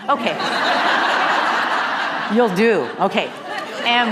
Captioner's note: laugh